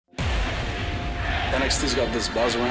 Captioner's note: fans chanting